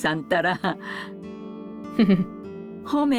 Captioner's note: chuckles